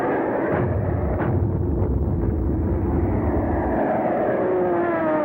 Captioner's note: explosion rumbles